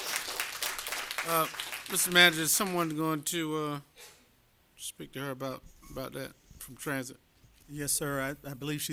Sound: applause

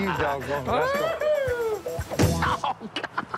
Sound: pained laugh

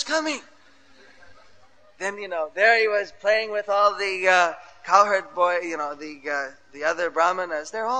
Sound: laughter

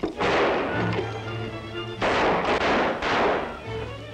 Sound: gunshots

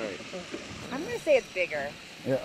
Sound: boat engine idling

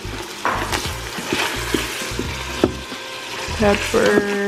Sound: pot sizzling

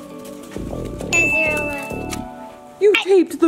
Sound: bell dings

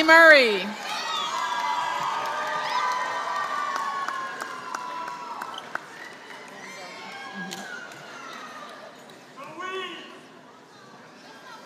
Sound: applause

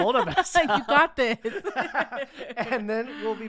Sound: laughing

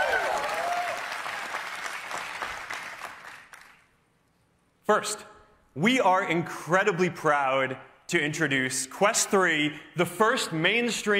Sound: cheers and applause

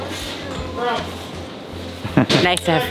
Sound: chuckles

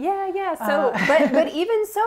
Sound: laugh

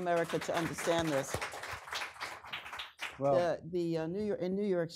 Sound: audience applauding

